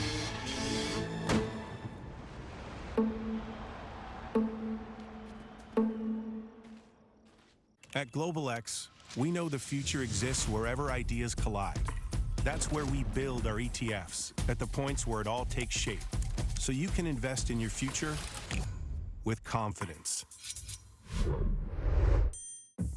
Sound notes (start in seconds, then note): 6.5 footsteps